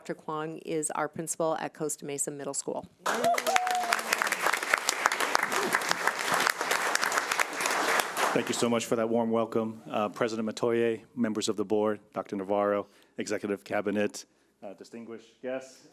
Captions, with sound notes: And Dr. Kwong is our Principal at Costa Mesa Middle School. (audience applauding) Thank you so much for that warm welcome President Metoyer, members of the board, Dr. Navarro, executive cabinet, distinguished guests.